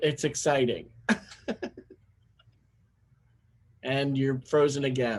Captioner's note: laugh